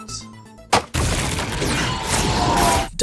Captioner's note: rumbling; laser beams zapping